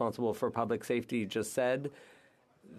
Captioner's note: speaking French